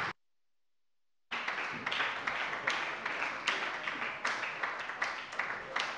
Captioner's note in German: Beifall bei der SPD